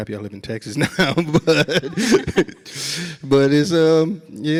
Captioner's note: laughs